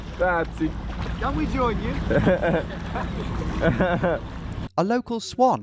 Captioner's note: laughs